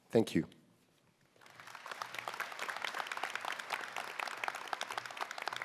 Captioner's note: applause